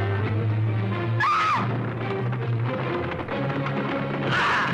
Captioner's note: woman screaming